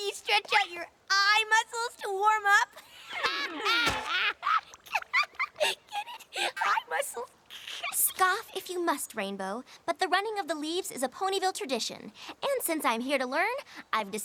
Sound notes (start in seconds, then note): 3.4 laughing